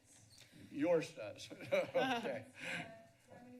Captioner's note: chuckles